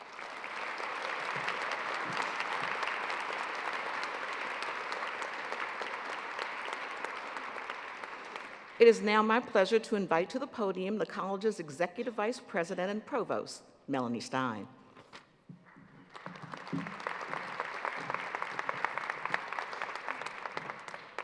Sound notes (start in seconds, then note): 6.6 applause